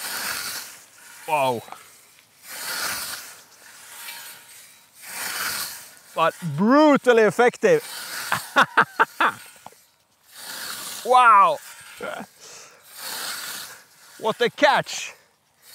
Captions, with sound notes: Wow. But brutally effective! (laughing) Wow! What a catch!